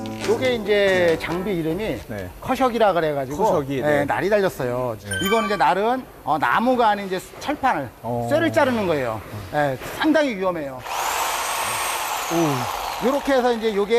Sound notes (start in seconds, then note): 5.3 electric saw that cuts metal; 10.8 whirring~